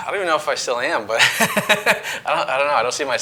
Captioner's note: laughing